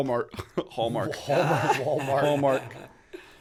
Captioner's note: chuckle; chuckle